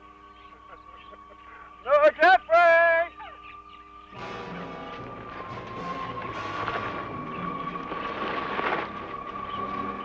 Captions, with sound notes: (laughing) - Brother Geoffrey.